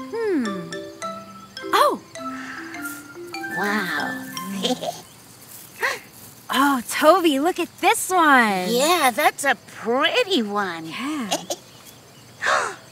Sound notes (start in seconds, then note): 4.3 laughs; 11.2 giggling